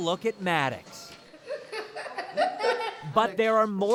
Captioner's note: laughs